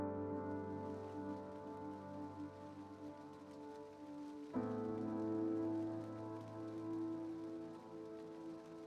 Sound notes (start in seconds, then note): 0.5 raindrops pouring